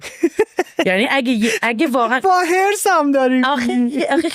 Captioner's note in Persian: خنده